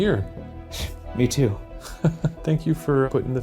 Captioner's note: Shane laughs